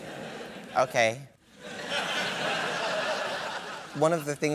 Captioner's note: laughter